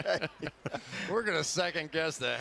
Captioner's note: laughter